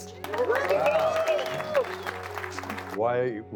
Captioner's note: audience applauding